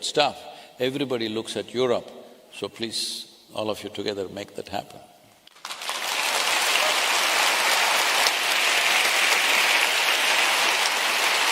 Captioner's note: applause